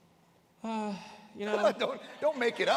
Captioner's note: sighs